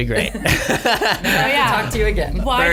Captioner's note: laughter